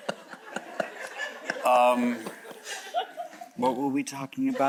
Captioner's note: chuckles; audience chuckles